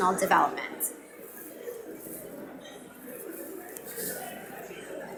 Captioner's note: audience mumbling